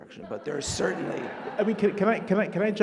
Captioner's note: audience laughing